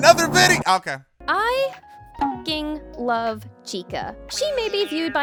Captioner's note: beeps